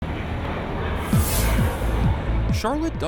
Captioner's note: flight taking off